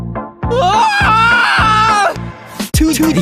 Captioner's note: robotic torture